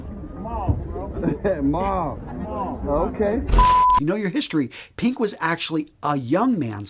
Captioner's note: sound effect